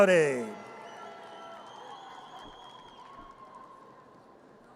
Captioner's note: audience cheers